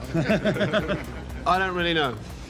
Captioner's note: audience laughs